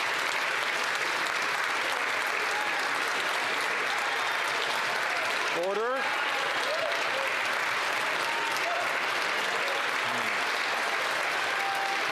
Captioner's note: some Applause